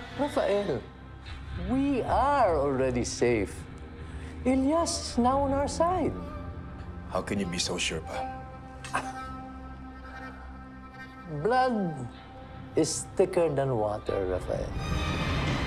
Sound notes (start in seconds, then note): 8.8 chuckles softly; 15.4 stirring music playing